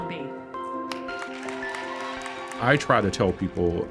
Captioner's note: audience cheers